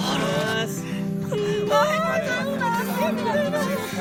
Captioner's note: cries of admiration